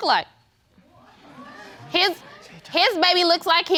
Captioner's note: audience exclaiming